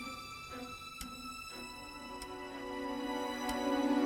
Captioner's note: clock ticking